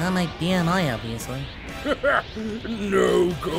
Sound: laughs

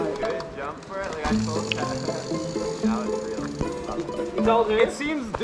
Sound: laughs

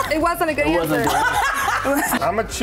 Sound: several laughing

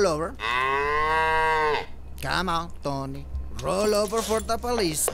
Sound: Tony moos

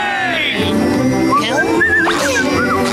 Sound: whistling

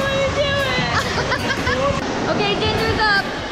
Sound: laughing

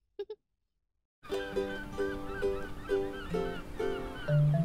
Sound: birds cawing

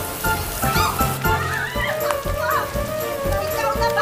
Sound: kids squealing

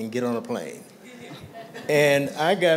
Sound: laughter

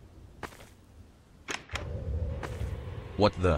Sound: door opening noise

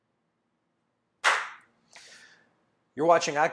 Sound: claps

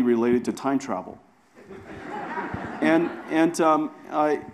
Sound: audience laughs

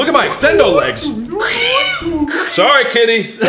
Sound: robotic noises; goose mating call?

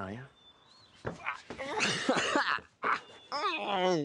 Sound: laughter

